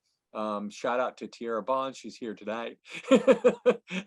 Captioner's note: laughs